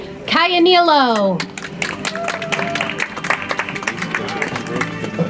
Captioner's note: audience applauds; soft music